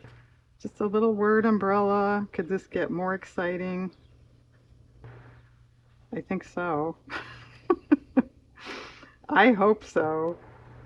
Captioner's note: laughs